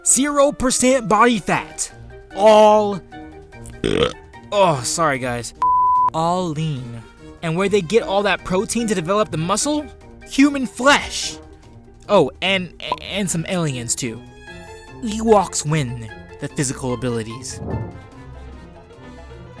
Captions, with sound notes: Zero percent body fat. All . . . [Narrator burps] Ah, sorry guys. All lean. And where they get all that protein to develop the muscle? Human flesh! Oh and some aliens too! Ewoks win the physical abilities.